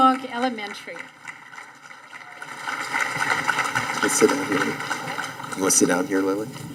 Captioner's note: audience applauding